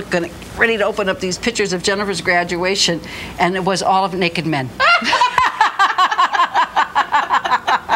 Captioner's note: both laughing